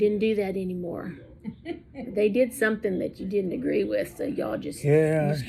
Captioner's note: laughs